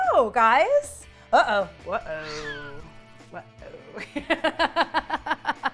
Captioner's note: laughs